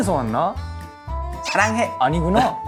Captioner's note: Korean